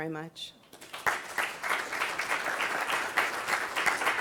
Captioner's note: applause